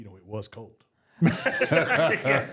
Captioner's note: JBL laughs